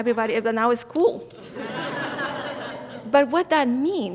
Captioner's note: audience laughs